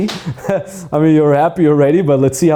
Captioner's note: chuckles